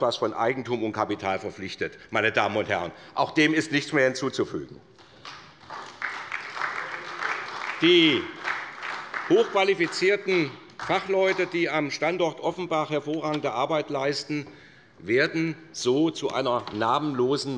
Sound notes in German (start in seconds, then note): 4.9 Beifall bei der SPD